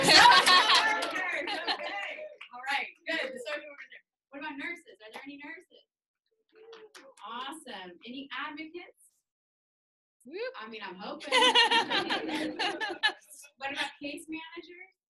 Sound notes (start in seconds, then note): 0.0 people laughing; 10.2 woman cheers; 11.2 woman laughing